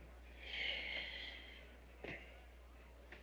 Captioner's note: sighs